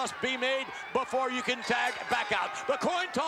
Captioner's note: bell ringing